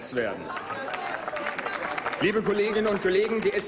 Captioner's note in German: Applaus